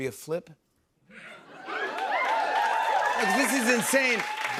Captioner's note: cheers and applause